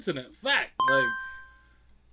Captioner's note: beeping